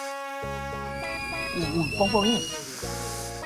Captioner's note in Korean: 삐익